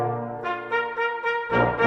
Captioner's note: none